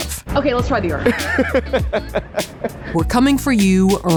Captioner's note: laughs